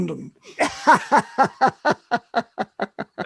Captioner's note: laugh